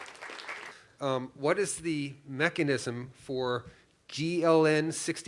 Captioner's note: applause